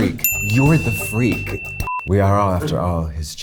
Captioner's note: bell dings